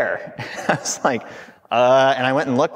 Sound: laughing

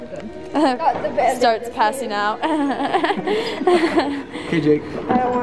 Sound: laughs

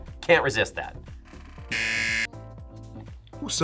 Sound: buzzer

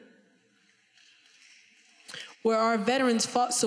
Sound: audience snaps fingers

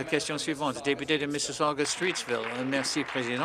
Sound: applause

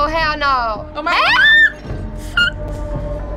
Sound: shrieking

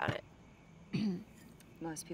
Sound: Anne-Marie clears throat

